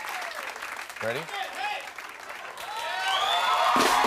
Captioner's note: cheers and applause